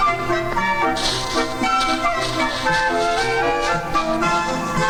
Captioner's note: footsteps crunching; gentle upbeat music